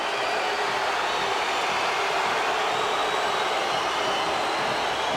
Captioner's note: crowd cheers